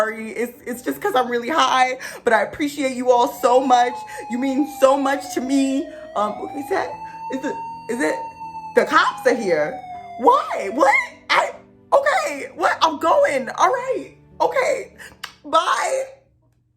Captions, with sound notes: it’s because I’m really high but I appreciate you all so much. You mean so much to me-- (Police sirens) The cops are here? Why?! What? Ok I’m going alright! Ok! Bye!